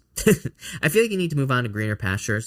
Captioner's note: chuckling